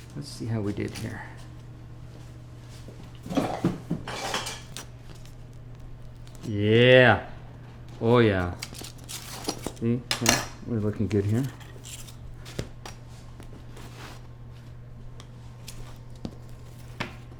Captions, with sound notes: - Let's see how we did here. (footsteps) (utensils clattering) Yeah! Oh, yeah. We're looking good here.